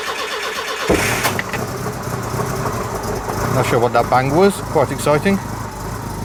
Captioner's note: engine cranks; engine starts